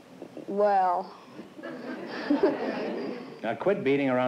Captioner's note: laughs